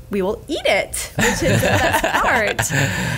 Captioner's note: laughs